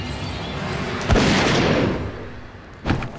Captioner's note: gunshot